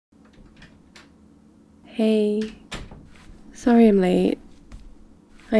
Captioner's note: door opens; footsteps